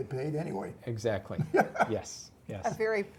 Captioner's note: laugh